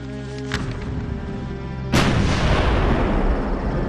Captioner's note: paper rustles; cannon fires